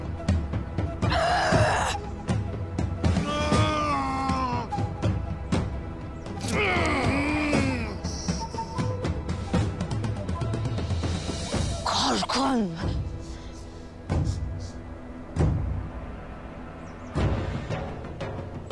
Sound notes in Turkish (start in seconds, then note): 3.5 Acıyla inleme